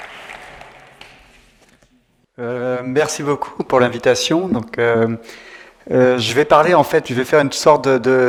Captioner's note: round of applause